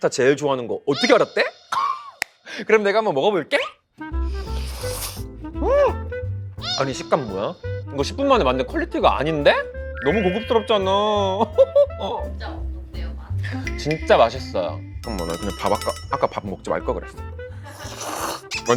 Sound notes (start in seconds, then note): 4.1 inhaling the aglio e olio